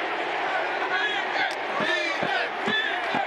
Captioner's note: speaking in native tongue